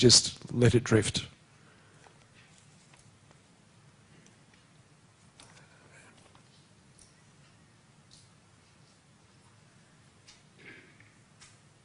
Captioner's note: pause